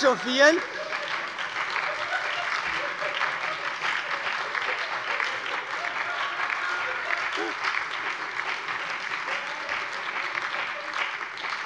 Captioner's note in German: Heiterkeit und lebhafter Beifall bei der SPD, der LINKEN und der FDP